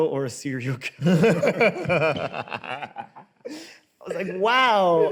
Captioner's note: both laugh